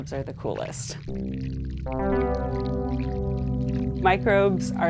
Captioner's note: water murmuring; pensive music